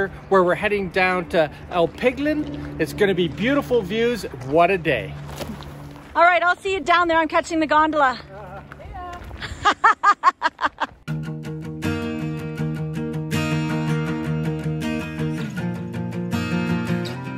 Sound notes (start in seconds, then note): 9.3 female host laughs; 9.4 laughs; 11.0 instrumental music